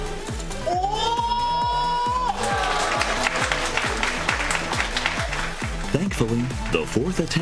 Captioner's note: applause